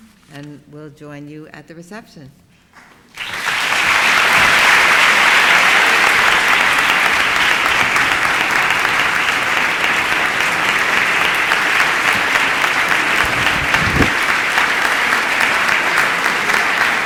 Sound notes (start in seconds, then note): 2.7 applause